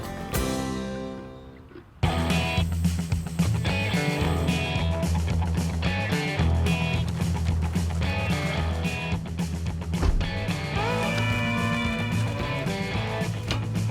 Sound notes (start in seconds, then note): 10.0 door closes